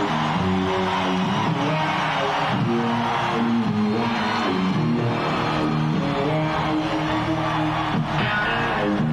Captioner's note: crowd roaring